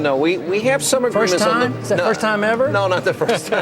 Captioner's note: laughs